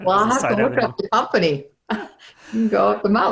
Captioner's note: laughs